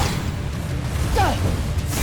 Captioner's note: evil energy whoosh & crackle; powerful splash; grunts; grunts, growls, & groans; powerful blast & clanging